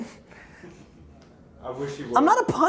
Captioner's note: laughs